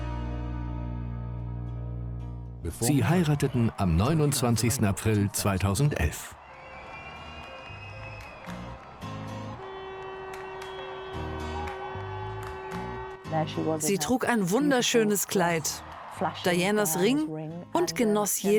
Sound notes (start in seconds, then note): 5.9 crowd cheering; 8.8 upbeat music